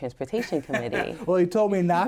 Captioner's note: laughter